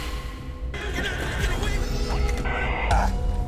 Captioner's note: distorted voices